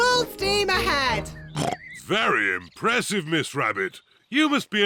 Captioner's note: oinks